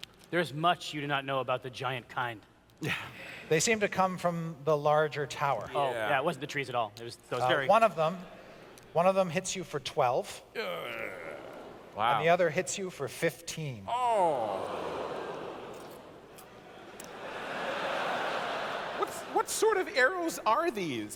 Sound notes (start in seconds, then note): 10.5 groans; 16.8 laughter